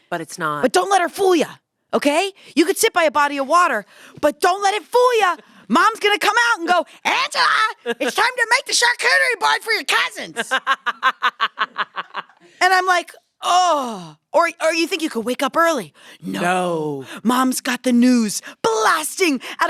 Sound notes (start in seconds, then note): 10.3 laughs